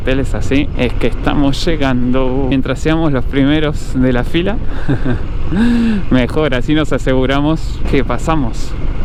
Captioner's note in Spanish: risas